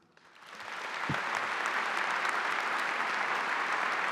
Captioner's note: audience applauding